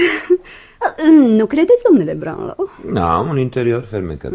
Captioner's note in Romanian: voce dreasă